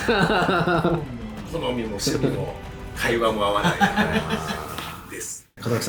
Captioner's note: laughs; laughs